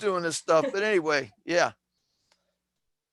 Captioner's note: laughter